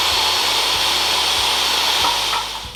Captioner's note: sound of saw running